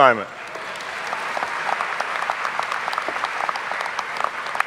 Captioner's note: audience applauding